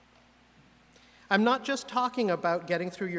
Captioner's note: none